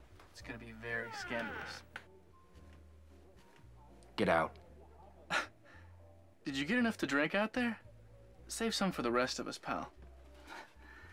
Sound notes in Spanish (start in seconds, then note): 0.8 puerta crujiendo; 5.3 se burla